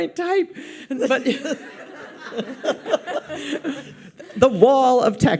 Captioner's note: audience laughs